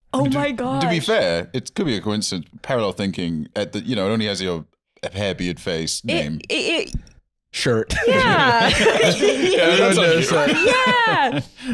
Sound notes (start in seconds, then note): 6.5 stammering